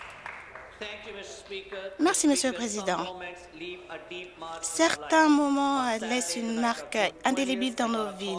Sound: some Applause

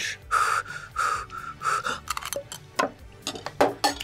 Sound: breathes heavily

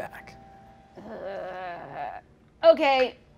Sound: groaning

